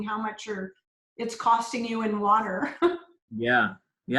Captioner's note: laughs